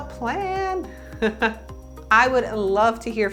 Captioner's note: laughs